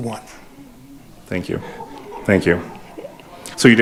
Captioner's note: audience laughing